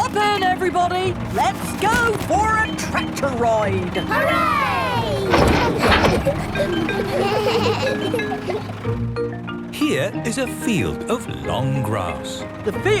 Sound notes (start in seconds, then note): 4.2 giggles; 7.3 bleating